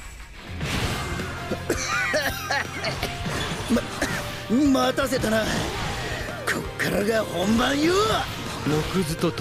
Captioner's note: cough, cough, cough